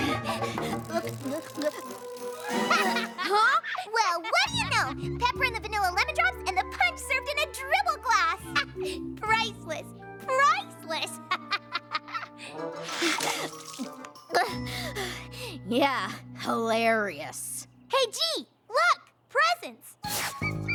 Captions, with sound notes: [ BREATHING HEAVILY ] [ GULPING ] [ LAUGHS ] HUH? WELL, WHAT DO YOU KNOW? PEPPER IN THE VANILLA LEMON DROPS AND THE PUNCH SERVED IN A DRIBBLE GLASS! HA! PRICELESS! PRICELESS! [ LAUGHS ] [ GULPS, BREATHING HEAVILY ] YEAH, HILARIOUS. HEY, "G," LOOK -- PRESENTS!